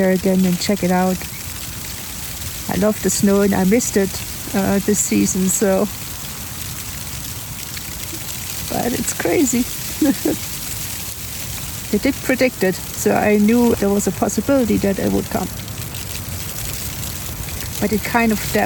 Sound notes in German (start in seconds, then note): 6.2 Schnee fällt aufs Zelt; 8.9 Lacht